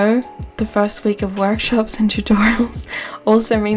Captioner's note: laughs